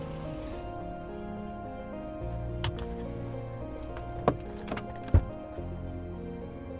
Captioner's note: door clatters; seatbelt clicks